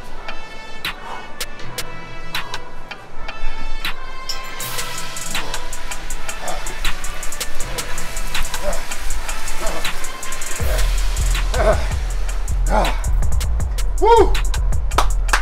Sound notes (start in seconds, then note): 9.2 panting